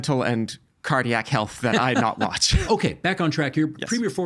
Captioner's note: laughing